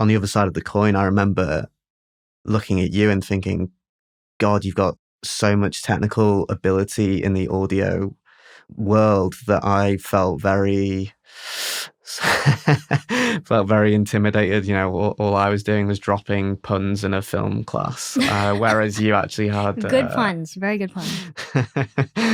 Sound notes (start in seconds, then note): 12.2 laughter